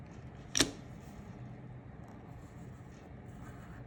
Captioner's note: ruler thudding